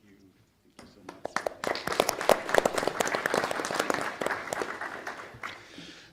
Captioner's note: attendees applauding